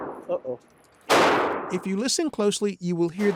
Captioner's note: gunshot booms